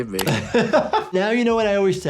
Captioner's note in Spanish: El doctor se ríe